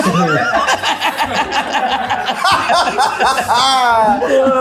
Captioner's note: everyone laughing